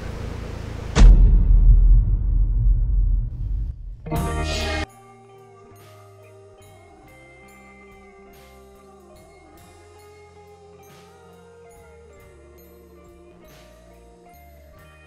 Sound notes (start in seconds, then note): 0.9 object thudding; 4.0 logo buzzing; 4.0 uptempo guitar music